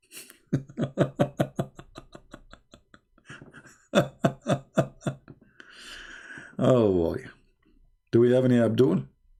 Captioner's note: Ketawa